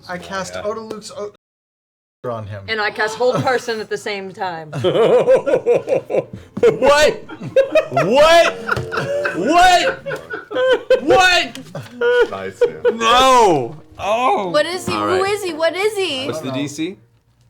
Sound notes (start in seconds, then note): 5.6 laughs